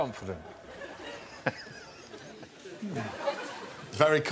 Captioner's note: laughter